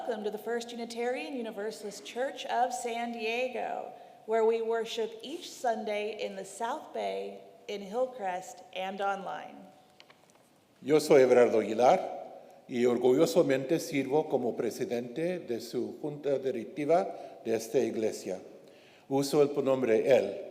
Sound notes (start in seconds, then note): 10.1 paper rustling; 10.9 speaks in foreign language